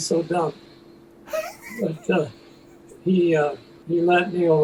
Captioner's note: chuckles